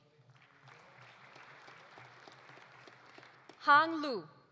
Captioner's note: audience applauding